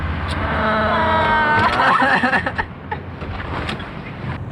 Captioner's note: crying